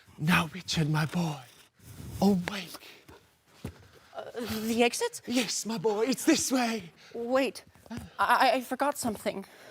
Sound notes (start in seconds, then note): 3.5 scraping